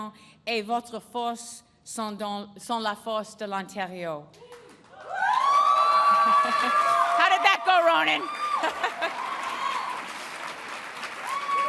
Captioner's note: speaking in French; applause and cheering